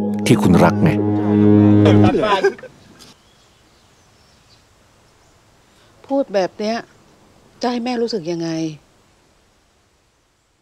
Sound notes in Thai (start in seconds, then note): 1.8 เสียงหัวเราะหยุด